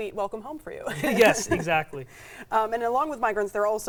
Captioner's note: laughing